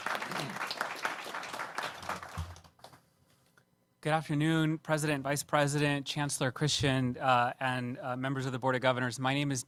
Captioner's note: applause